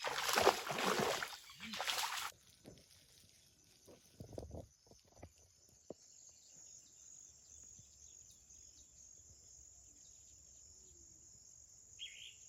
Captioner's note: cicadas and birds